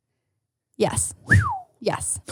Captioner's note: whistles